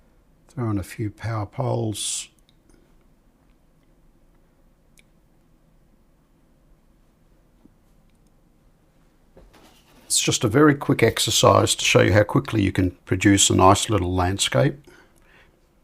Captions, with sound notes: Throw in a few power poles. [silence] It's just a very quick exercise to show you how quickly you can produce a nice little landscape.